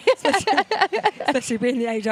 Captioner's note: laughing